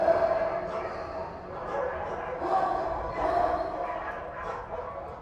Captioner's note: dogs barking continues